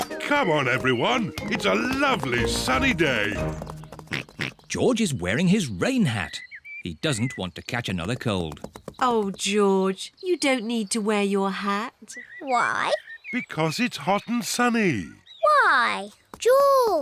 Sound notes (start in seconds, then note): 0.2 oinks